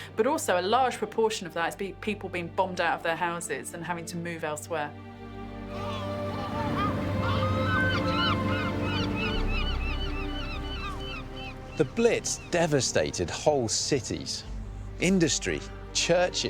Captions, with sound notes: But also a large proportion of that is people being bombed out of their houses and having to move elsewhere. (inspirational music) (seagulls cawing) The blitz devastated whole cities, industry, churches,